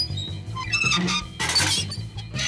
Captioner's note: metal squeaking